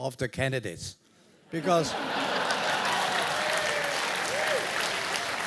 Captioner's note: laugh; applause